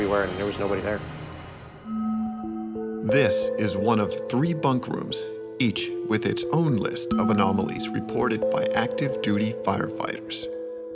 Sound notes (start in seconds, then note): 3.1 voiceover